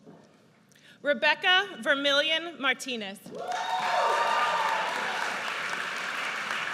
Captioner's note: audience cheers